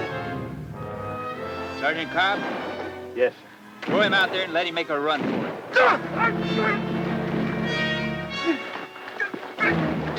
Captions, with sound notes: - Sergeant Cobb? - Yes, sir. - Throw him out there and let him make a run for it. (Greer grunts)